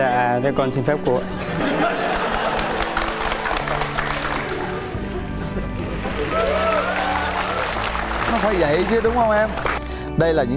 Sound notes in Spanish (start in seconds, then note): 1.4 risas, aplauso; 6.0 vítores